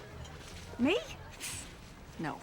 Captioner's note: scoffs